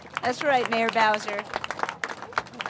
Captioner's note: applause